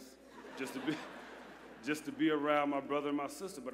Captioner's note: laughter